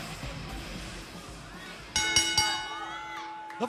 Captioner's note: bell ringing